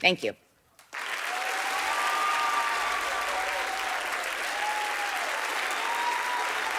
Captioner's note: audience applauding; audience cheering